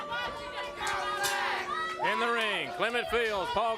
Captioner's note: crowd chatter